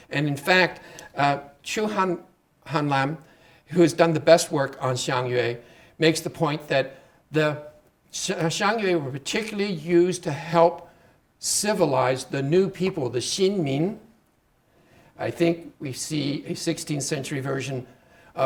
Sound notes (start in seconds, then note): 12.4 speaking Chinese